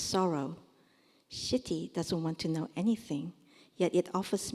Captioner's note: korean